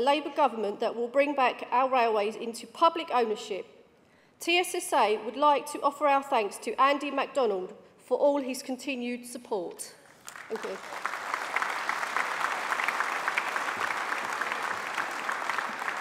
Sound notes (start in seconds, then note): 14.9 applause